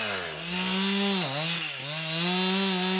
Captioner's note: chainsaw noises